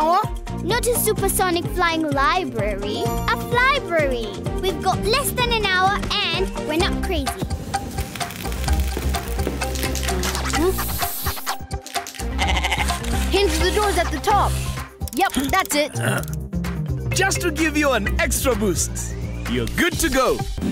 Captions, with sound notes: - Not a supersonic flying library, a fly-brary! We've got less than an hour and we're not crazy. - Mm-hmm. (bleating) Hinge the doors at the top. Yup, that's it. (grunting) - Just to give you an extra boost! You're good to go.